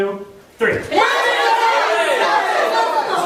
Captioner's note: audience members yelling all at once